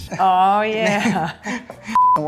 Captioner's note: laughs